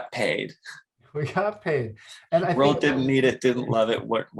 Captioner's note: chuckles